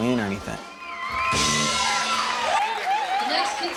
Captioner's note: crowd cheers